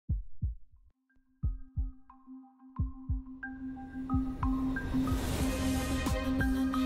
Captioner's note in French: battements de coeur